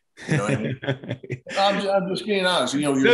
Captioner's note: chuckles softly